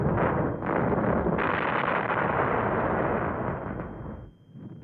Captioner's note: loud explosions